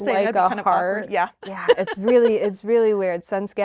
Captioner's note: laughs